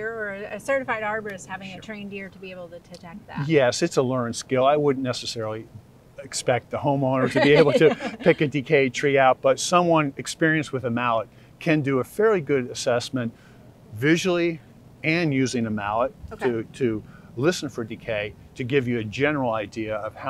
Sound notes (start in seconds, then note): 7.1 laughs